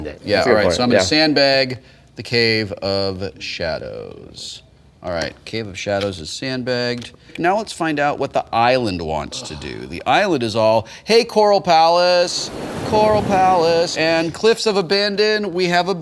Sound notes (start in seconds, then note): 12.0 waves crashing